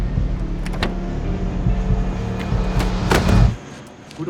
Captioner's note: trunk clicking; trunk thudding